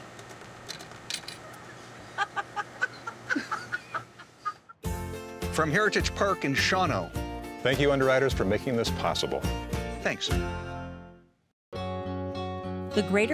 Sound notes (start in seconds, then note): 2.1 woman laughing; 2.1 laughing; 4.9 gentle music